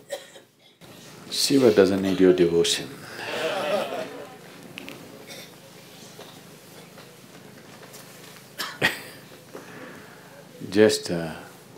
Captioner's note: laughter